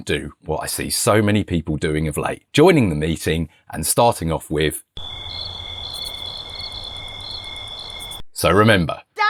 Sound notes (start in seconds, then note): 5.0 crickets